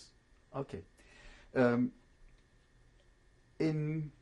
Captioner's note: pauses for 3 seconds